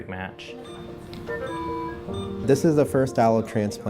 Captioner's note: machines beeping